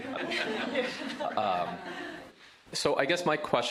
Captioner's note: laughter